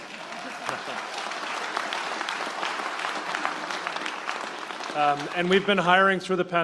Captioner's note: applause